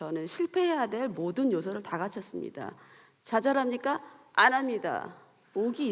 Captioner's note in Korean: none